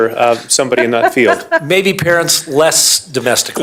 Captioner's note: laughter